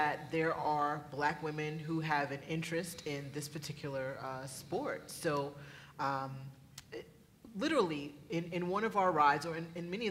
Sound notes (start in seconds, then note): none